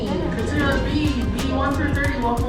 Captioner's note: airport Announcement